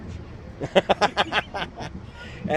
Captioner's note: laughs